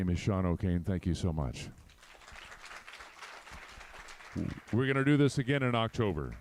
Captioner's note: applause